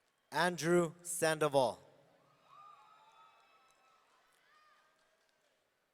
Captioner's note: audience cheering